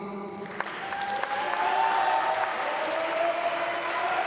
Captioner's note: applause